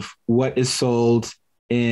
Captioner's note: none